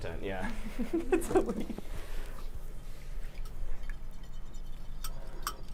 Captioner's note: laughs